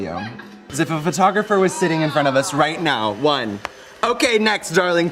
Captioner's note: snaps